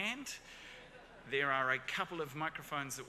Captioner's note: audience laughs